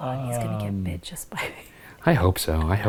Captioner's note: chuckles